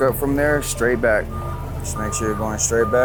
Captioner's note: lift alarm beeps